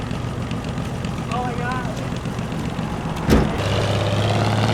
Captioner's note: engine running